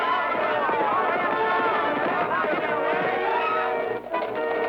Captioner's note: soldiers shouting; hooves clacking